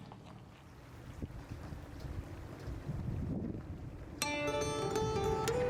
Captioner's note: running Water